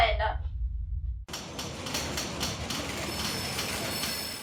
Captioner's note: busy office sounds